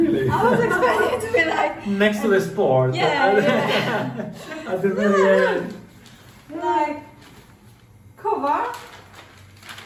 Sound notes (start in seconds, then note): 3.4 laughing